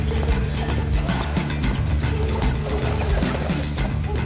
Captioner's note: grunting